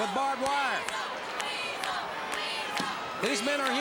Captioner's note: crowd cheering